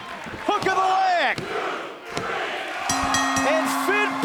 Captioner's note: bell ringing